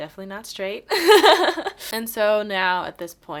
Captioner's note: laughs